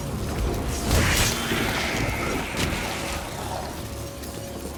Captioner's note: shrieks